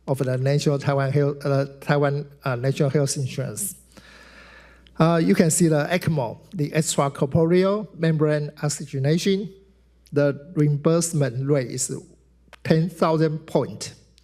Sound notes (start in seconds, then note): none